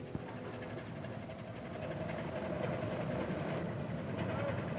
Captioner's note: motor rumbling